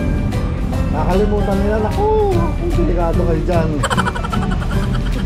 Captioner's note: laugh